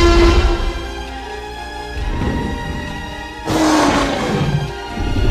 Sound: T-rex roars loudly; T-rex growls and harassing vehicle

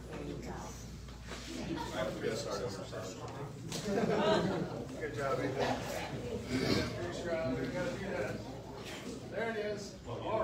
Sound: indistinct chatter

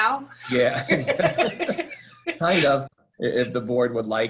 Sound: laughter

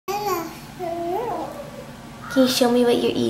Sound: baby jabbering

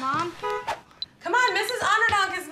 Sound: honking

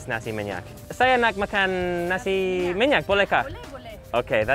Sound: speaks foreign language

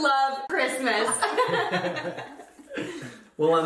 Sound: laughter

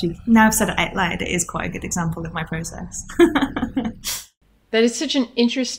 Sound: laughs

